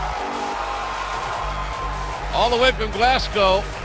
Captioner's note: cheers and applause